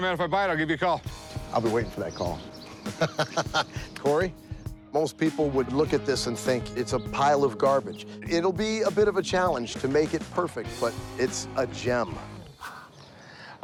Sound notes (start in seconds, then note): 2.5 laughs